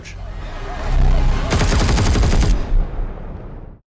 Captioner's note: gunshots